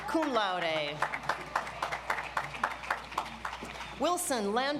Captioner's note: audience applauds